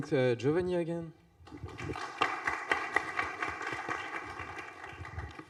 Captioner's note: applause